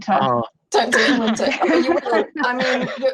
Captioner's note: everyone laughs